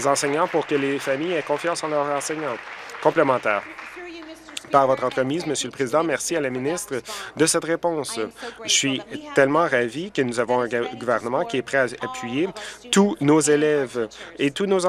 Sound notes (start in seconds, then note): 2.1 applause